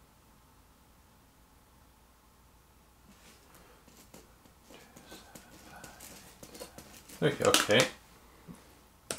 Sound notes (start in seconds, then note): 4.7 pen scribbles on paper